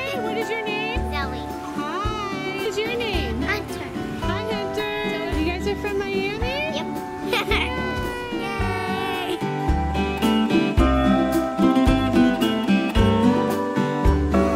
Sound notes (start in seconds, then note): 2.6 voiceover; 7.2 laughing; 10.6 tropical music